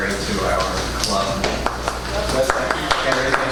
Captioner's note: applause